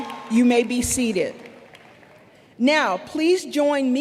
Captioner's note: applause